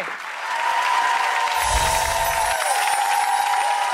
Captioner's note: applause